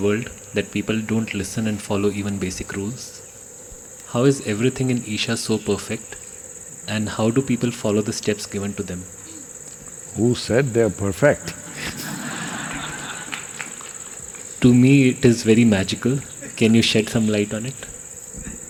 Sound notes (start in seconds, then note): 11.3 laughter